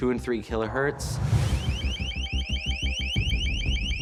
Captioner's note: loud chirping